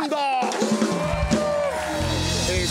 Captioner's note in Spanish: Aplausos